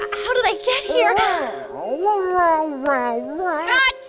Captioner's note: meows playfully